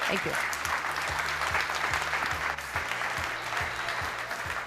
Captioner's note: audience applauds